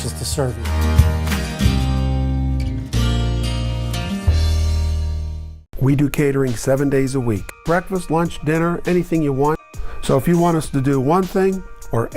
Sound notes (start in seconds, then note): 2.0 guitar music; 5.9 voiceover